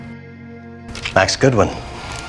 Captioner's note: voiceover